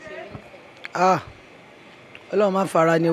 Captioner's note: exclaims